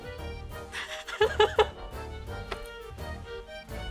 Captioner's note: laughs